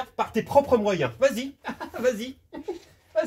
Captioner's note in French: Rires